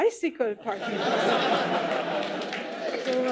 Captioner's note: laughter, applause